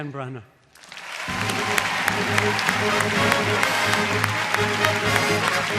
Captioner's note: audience applauding and cheering; dramatic orchestra music